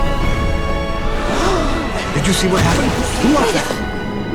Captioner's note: gasping